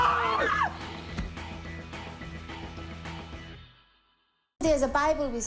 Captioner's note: screams